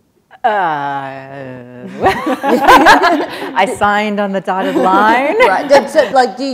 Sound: laughter

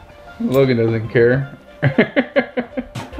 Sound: laughs

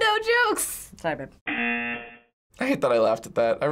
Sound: buzzer

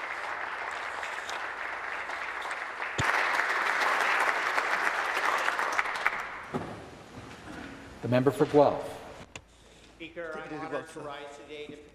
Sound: applause

